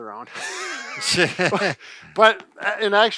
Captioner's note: both laughs